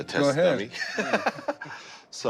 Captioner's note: laughs